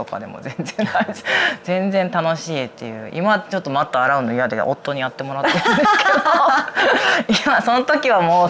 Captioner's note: laughs